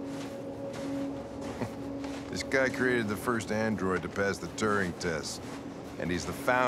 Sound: scoff

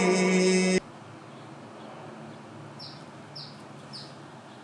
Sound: song ends; birds chirping

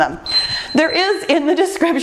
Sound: timer beeps

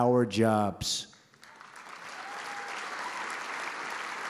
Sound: applause

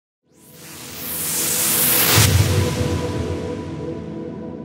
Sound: whooshing

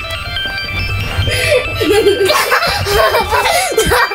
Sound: laughing

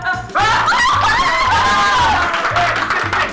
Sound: screaming

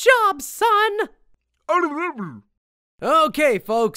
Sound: gurgle

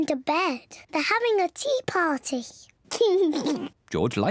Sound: laughs

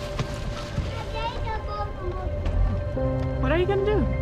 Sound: babbling

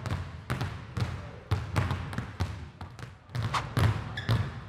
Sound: balls continue thudding

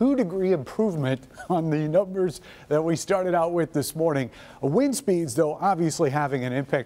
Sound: laughter

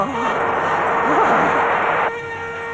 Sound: thunder crashing

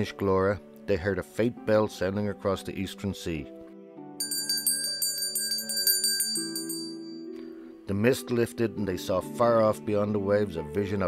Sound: ringing bell

